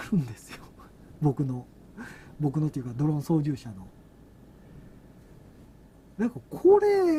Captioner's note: laughs